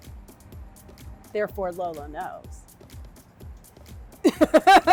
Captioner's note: laughs